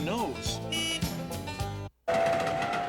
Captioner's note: horn honks